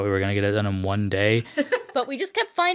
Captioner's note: Peacock laughs